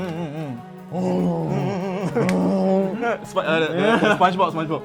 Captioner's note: ape noises